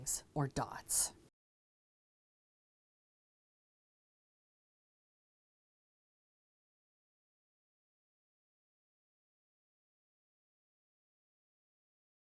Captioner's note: no Sound Present